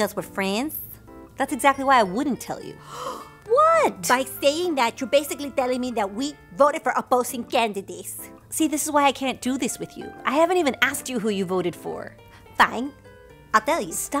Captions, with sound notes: Because we're friends. —That's exactly why I wouldn't tell you. (Gasp!) What?! By saying that, you’re basically telling me that we voted for opposing candidates. See? This is why I can't do this with you. I haven't even asked you who you voted for. —Fine. I'll tell you...